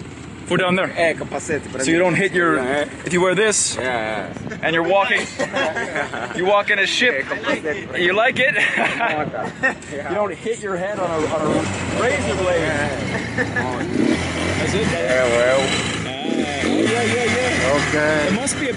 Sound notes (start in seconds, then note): 5.9 group laughing; 8.5 laughing; 12.8 motorcycle engine revving